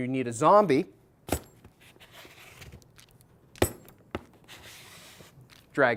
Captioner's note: walking, dragging shoe sound